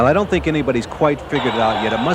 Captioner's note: voiceover